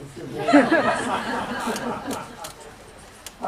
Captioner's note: laughter